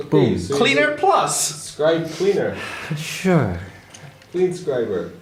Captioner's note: sighs